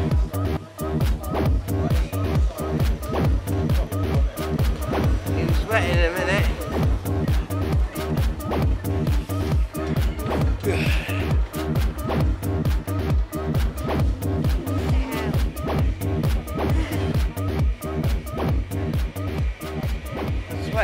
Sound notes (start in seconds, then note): 0.1 high energy music; 7.0 high energy music; 16.4 giggles; 17.5 high energy music